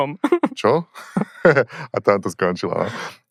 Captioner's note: chuckles